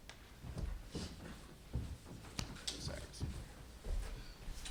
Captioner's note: footsteps thumping